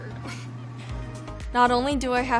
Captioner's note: chuckles